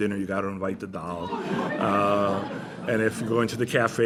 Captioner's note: laughter